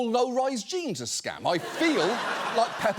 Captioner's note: audience laughs